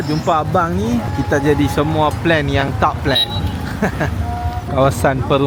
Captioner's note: laugh